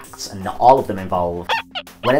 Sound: squeak squeak

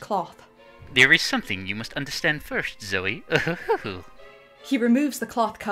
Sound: chuckles

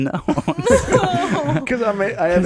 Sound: laughing

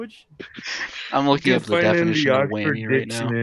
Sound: man Grunting

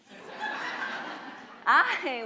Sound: audience laughs

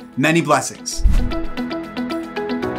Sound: upbeat electronic music continues; graphics whoosh

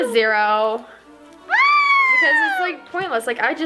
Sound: screaming

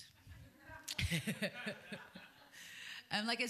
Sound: laughter

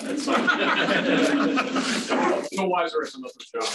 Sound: laughter

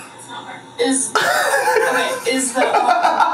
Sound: laughs

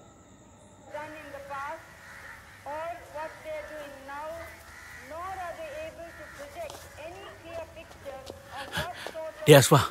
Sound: radio news

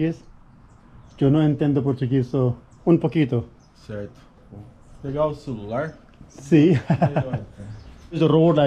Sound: speaking in Portuguese

